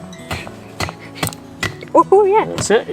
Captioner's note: wooden thumping